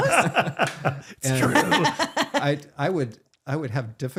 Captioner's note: laughing